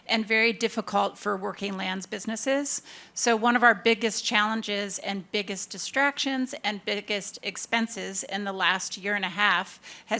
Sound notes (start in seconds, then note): none